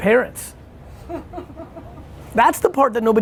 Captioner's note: laughter